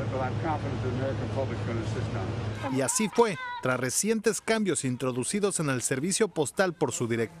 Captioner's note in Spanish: HABLAN EN INGLéS